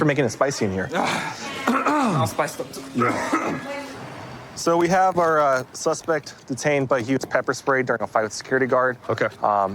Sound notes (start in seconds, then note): 1.7 clears throat; 2.9 coughs